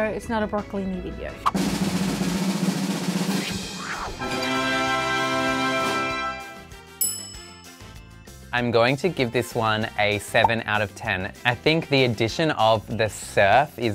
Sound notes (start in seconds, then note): 1.4 drum rolling; 4.3 triumphant music; 7.0 bell dings